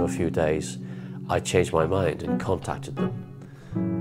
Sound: voice duplicated

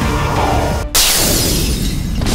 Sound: glass shatters

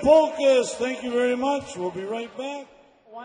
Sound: voiceover

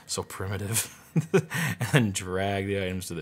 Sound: chuckles

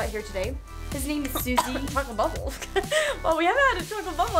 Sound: coughing

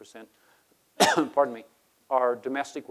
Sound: coughs

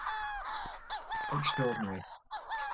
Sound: Manx Shearwater calls

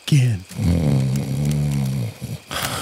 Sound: snoring

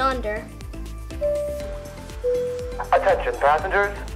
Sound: ding

